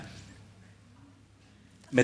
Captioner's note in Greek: σιωπή